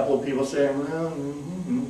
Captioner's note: humming